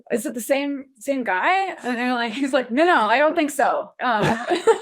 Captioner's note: laughs